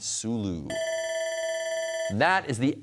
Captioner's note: bell ringing